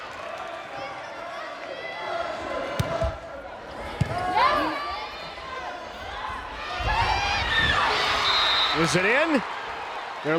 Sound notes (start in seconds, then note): 6.6 players yelling; 7.3 crowd cheering; 8.1 whistle blows